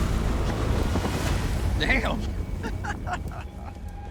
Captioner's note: laughs